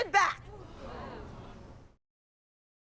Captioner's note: audience gasps, murmurs